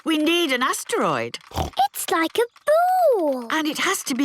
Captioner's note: snorts